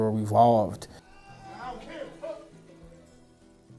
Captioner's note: shouting